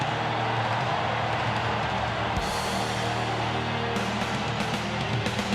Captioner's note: crowd cheering; rock music